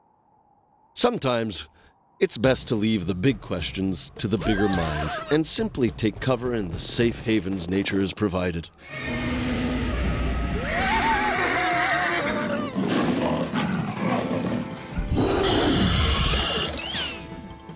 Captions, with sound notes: SOMETIMES, IT'S BEST TO LEAVE THE BIG QUESTIONS TO THE BIGGER MINDS AND SIMPLY TAKE COVER IN THE SAFE HAVENS NATURE HAS PROVIDED. (creature roaring) (screaming) (growling) (creature roars)